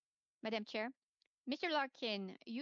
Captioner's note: speaking French